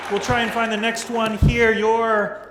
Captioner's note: laughter